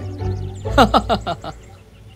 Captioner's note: laughs